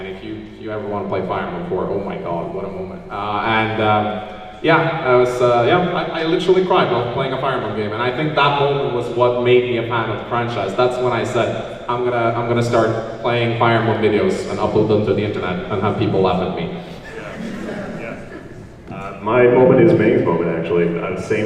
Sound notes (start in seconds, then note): 16.9 laughs